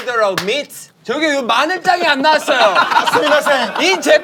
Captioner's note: in Korean